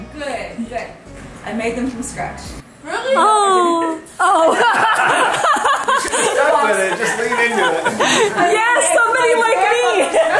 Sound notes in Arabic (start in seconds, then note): 4.4 يضحك الجميع